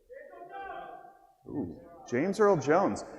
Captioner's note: man yells